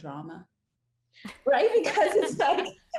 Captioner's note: all laugh